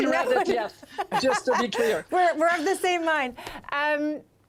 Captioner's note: laughter